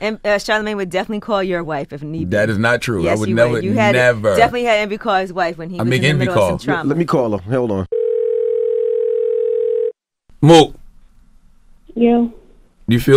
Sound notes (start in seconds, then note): 7.9 phone rings